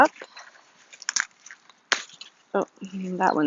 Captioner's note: plant snaps